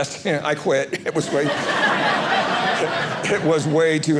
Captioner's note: audience laughing